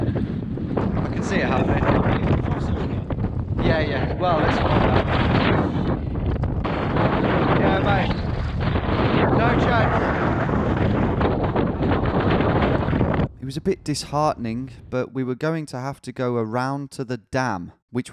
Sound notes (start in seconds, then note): 1.6 wind rushing